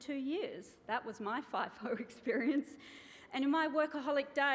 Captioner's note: chuckles